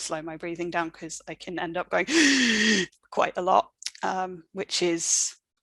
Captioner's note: gasps